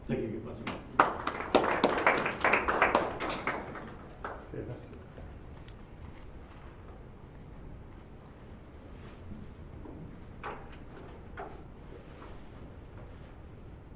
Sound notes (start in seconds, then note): 3.4 applause